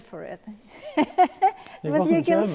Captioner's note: laughing